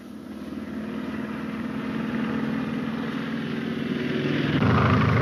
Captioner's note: plane engine roars